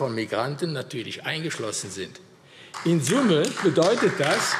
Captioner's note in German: Beifall AfD